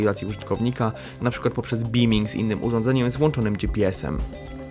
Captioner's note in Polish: złapanie sygnału bluetooth